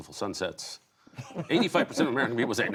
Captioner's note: laughter